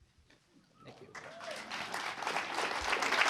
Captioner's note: applause